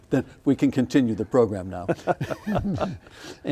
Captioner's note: laughing